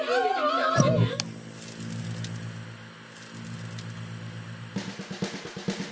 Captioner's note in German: Cast singt; Klicken, statisches Rauschen